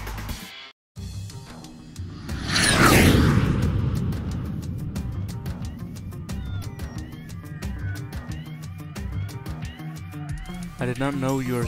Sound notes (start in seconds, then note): 5.7 jet fly